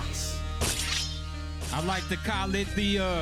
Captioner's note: metal clashes